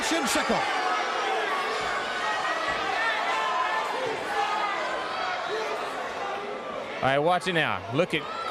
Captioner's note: crowd chatter